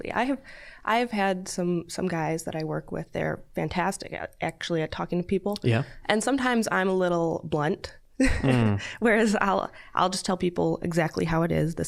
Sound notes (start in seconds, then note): 8.2 chuckling